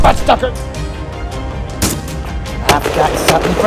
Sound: gunshot Sounds

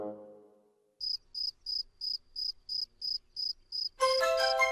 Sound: sound of grasshopper; lively music

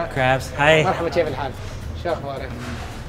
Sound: speaks in foreign language

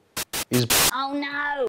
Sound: static overload

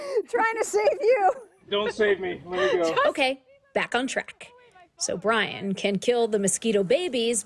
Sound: laughter

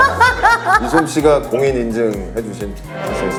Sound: haha

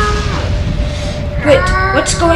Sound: ugly screaming

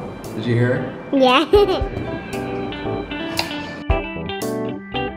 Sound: laughs

